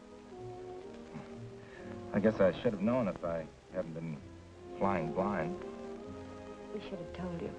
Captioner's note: chuckles